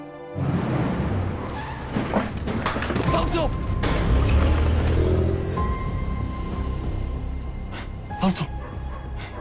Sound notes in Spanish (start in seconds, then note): 0.4 Chirrido de llantas; 6.6 Motor acelerando